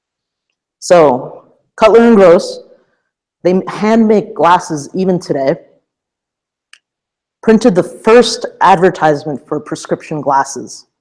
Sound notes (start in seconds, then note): none